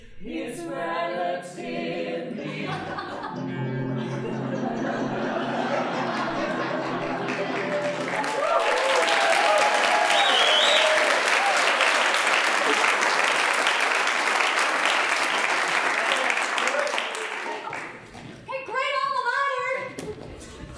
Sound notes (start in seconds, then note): 4.8 audience laughing; 7.5 applause, cheering, whistling